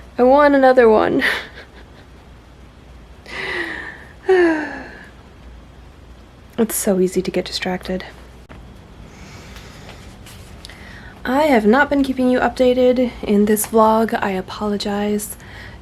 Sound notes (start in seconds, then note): 1.2 laughs; 3.2 long sigh